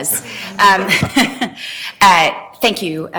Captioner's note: chuckles